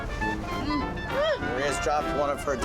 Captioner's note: sighs